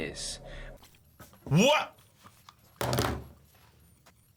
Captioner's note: headphones clatter